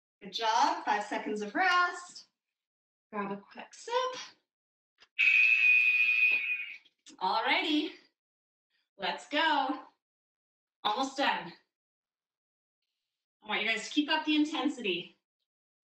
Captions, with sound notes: Good job. Five seconds of rest. Grab a quick sip. [alarm blares] All right, let's go. Almost done. I want you guys to keep up the intensity.